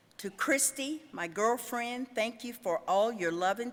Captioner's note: none